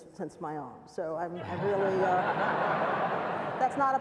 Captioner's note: laughs